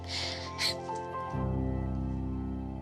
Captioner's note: chuckles